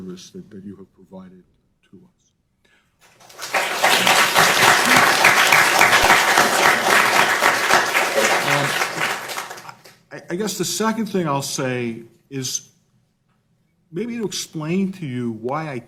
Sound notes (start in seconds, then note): 8.8 applause